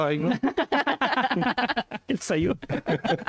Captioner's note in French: rires